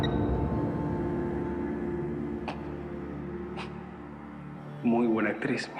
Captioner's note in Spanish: Bip del celular